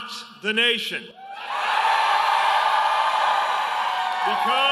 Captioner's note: cheering and applause